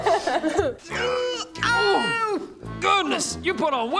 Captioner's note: Horatio in pain